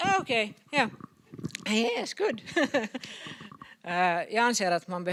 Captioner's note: laughs